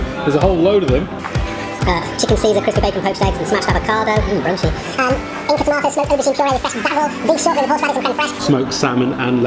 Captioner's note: speaks fast